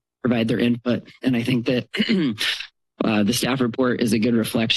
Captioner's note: clears throat